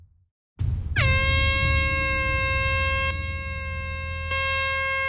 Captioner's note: air horn sounds